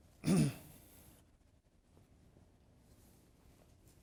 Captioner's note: clears throat